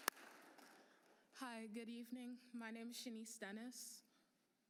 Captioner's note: applause